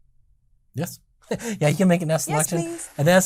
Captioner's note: laughing